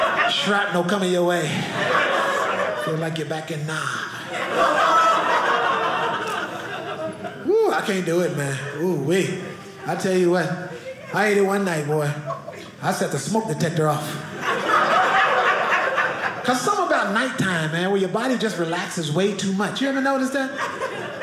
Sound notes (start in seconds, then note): 4.8 audience laughing; 13.8 audience laughing